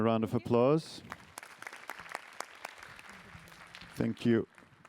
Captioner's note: applause